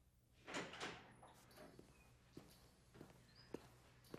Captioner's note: door opening